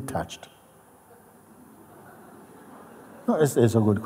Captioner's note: Lachen